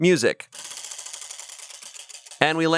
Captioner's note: wheel rattles